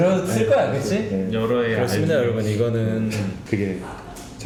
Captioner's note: sob